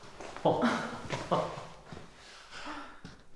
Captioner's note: laughing